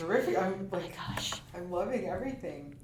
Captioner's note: pat